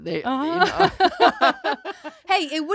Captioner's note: both laughing